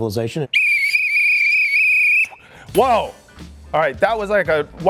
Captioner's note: whistle